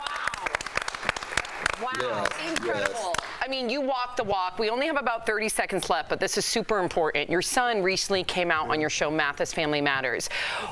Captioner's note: applause